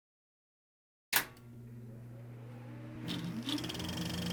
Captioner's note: click; film reel ticking